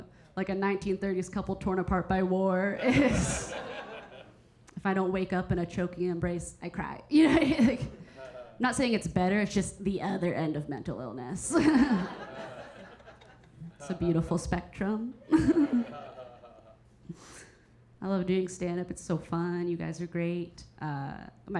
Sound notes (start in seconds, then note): 2.8 Keira chuckling; 2.8 audience laughing; 7.3 Keira chuckling; 11.5 Keira chuckling; 11.6 audience laughing; 15.2 Keira chuckling; 15.3 audience member laughing